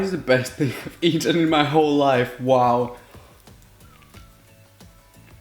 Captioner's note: eating